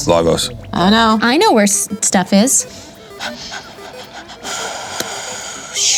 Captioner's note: someone panting